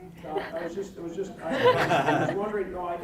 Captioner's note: scattered laughing